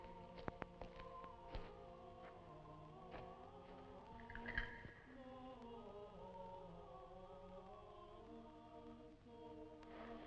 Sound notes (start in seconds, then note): 4.8 item clattering